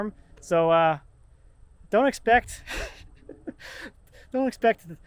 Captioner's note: laughs